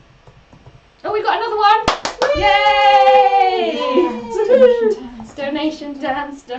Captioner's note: cheer